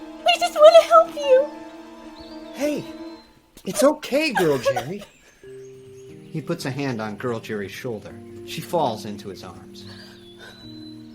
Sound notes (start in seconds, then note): 2.2 Girl Jeri crying; 4.3 Girl Jeri crying